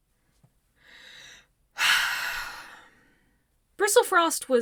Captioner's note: deep breath